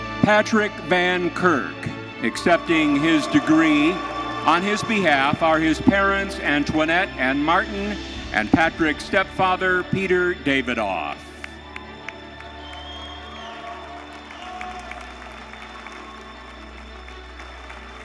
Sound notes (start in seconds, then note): 0.0 steady orchestral music continues; 11.1 audience applauding; 11.5 audience cheering